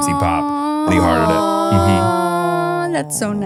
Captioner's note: both cooing